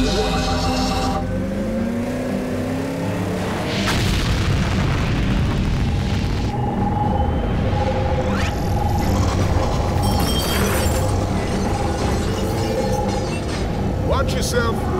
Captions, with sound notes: (exhaust jets firing) (medal clanking) Watch yourself!